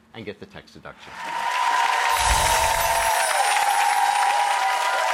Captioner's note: audience cheering